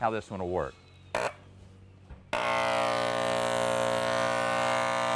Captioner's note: machinery whirring